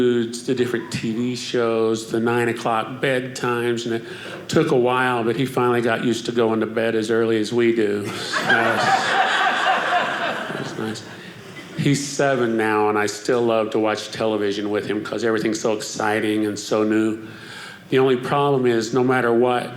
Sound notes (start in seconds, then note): 8.0 audience laughing